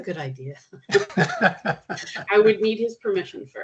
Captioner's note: chuckling